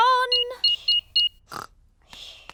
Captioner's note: beeping